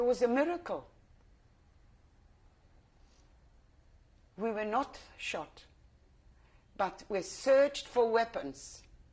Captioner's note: pauses for 3 seconds